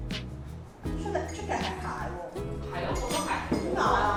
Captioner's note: office chatter